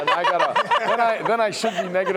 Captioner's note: laughter